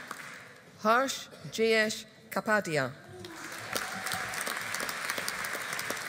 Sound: audience applauding

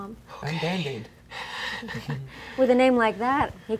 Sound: laughing

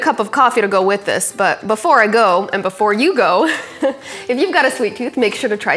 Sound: laughs

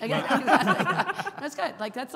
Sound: all laughing

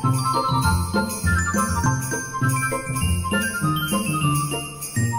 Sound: sleigh bells jingle

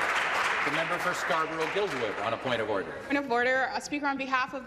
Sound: applause

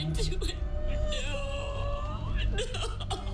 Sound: sobs; sobbing

